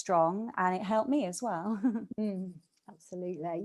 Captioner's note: chuckles